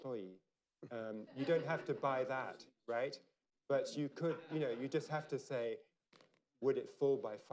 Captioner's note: laughter